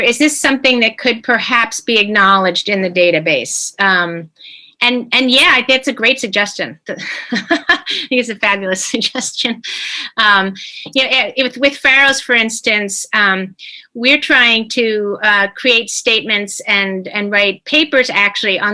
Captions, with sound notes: is this something that could perhaps be acknowledged in the database? And yeah, I think that's a great suggestion, (chuckling) it is a fabulous suggestion. You know with Pharos for instance, we're trying to create statements and write papers actually